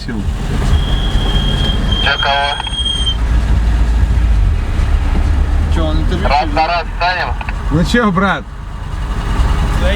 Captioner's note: on the radio